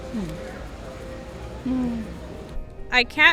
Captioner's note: interviewee murmurs